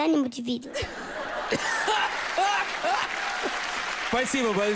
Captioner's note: laugh